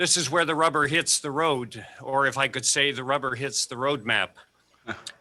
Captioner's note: laughter